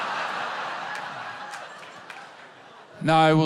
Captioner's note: laughter